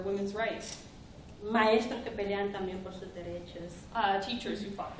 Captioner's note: speaking spanish